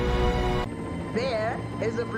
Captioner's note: helicopter noise